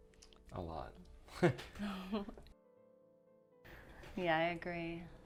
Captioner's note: both laughs